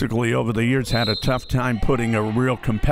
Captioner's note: referee blows whistle